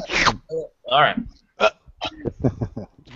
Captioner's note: mimicking chewing noises